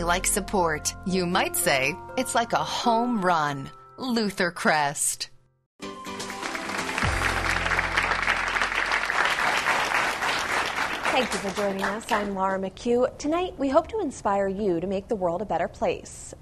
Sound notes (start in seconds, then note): 13.0 applause